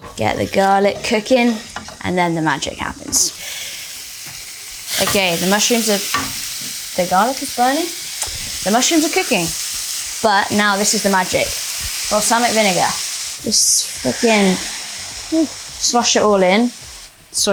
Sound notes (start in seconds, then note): 3.5 food sizzling